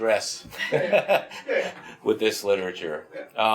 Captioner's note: laughs